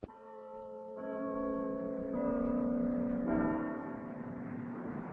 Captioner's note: cathedral bell ringing